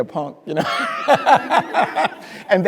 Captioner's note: speaker laughing